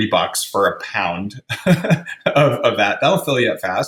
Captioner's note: laughs